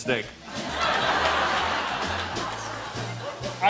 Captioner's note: laughter